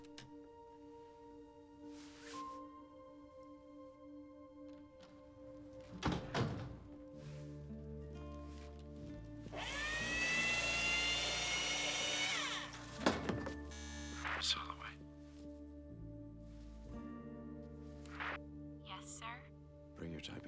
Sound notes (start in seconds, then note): 5.9 door closes; 13.7 intercom buzzes